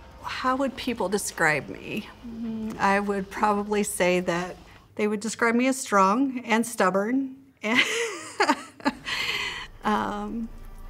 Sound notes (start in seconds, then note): 7.7 laughs